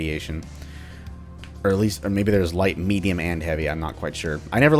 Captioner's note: pops wrist bone